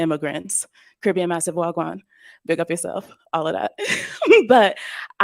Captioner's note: giggles